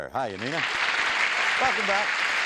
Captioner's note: applause